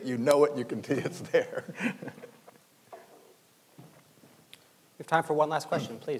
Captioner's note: laughing